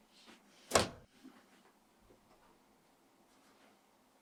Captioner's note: door opens